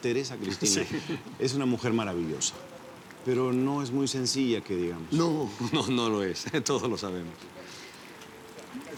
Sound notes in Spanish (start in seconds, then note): 5.6 Risas